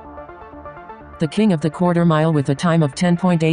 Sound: robotic Voice

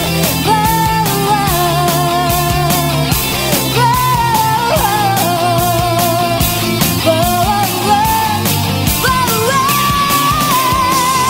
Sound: humming

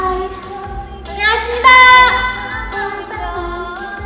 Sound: loud shout out

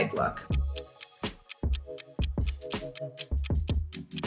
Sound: clock ticking

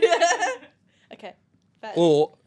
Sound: laughs

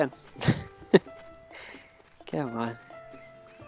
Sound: laughs

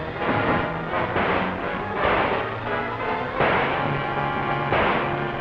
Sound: suspenseful orchestral music; gun firing; suspenseful orchestral music

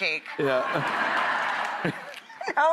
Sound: audience laughing

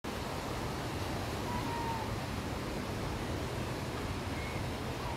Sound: wind blowing, birds chirping

